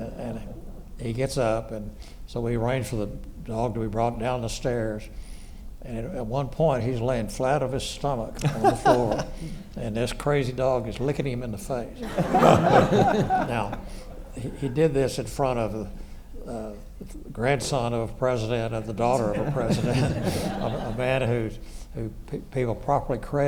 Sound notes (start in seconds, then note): 12.0 everyone laughs